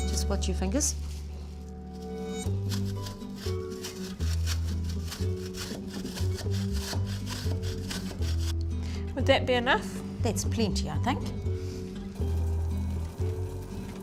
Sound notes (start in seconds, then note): 10.3 sound of pot cooking on stove